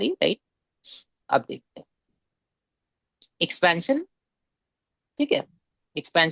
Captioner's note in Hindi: नाक से की जाने वाली आवाज़